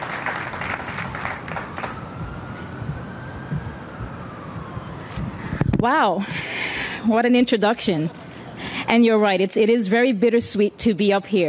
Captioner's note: applause